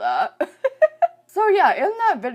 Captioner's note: chuckles